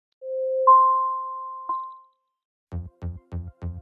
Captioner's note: chiming; upbeat music